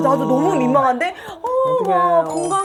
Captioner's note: clap